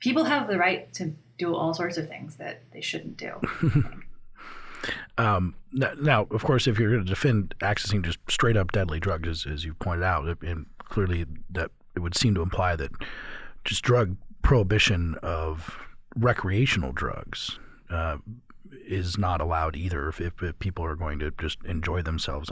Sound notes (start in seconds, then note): 3.4 chuckle